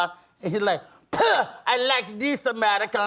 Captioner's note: spitting